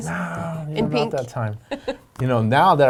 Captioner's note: laughing